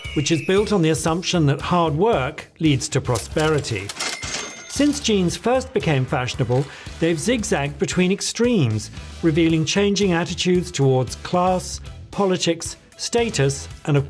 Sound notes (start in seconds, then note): 3.2 cash register chimes